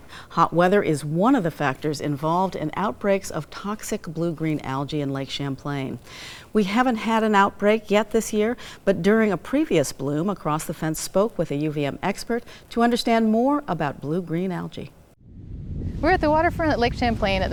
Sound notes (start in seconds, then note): none